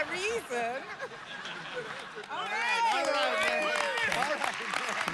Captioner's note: audience applauding